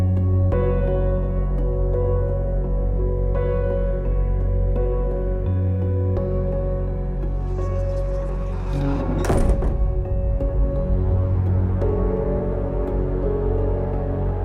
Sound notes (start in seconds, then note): 8.6 door slams